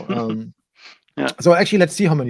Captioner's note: laughing